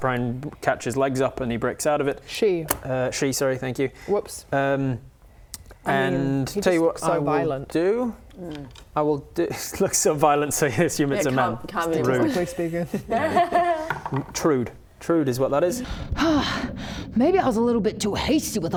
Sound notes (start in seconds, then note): 12.9 laughs